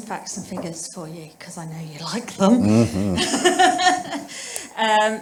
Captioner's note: laughs